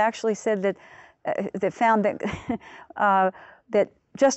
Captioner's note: laughs